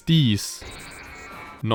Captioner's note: Metal Sonic noises